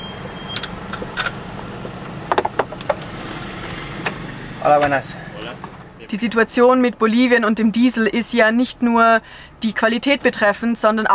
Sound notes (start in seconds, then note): 4.3 in Spanish